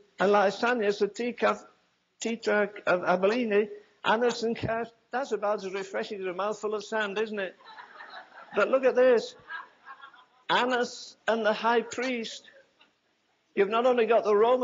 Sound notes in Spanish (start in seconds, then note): 7.1 risas